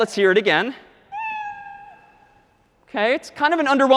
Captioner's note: quieter meow